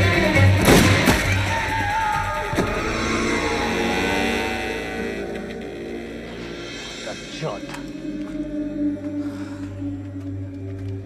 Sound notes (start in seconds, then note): 0.3 cries out; 0.3 gun firing; 2.2 bag thuds; 7.7 suspenseful music